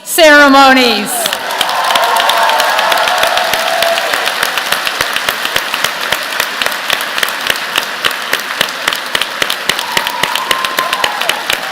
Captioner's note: applause